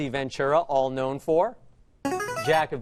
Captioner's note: answer bell